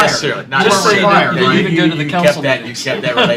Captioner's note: laughter